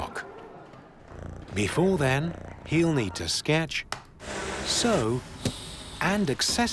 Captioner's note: cat purring